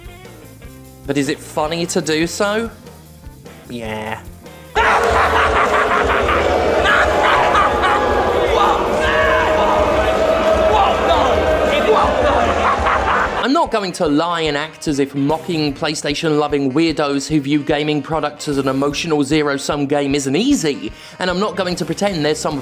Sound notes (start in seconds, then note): 5.9 audience boos